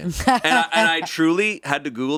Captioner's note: laughs